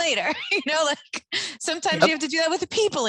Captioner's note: chuckles